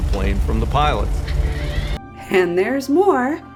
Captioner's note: mechanical whirring